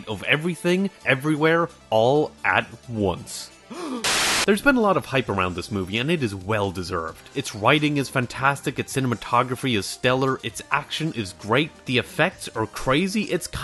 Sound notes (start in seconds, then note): 3.6 gasp